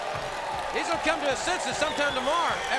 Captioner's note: crowd cheering